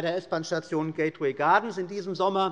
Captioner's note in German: none